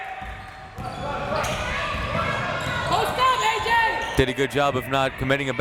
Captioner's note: crowd members shouting